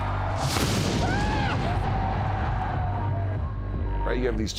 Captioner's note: loud strike